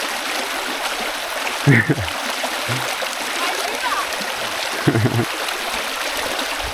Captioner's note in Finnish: Aplodeja